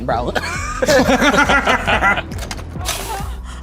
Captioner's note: group laughs